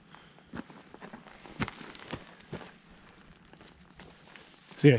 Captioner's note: footsteps thumping